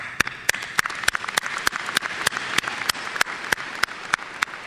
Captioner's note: applause